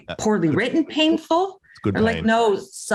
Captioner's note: laughs